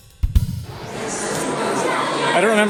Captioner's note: background chatter builds